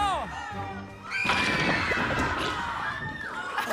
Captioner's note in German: Geschrei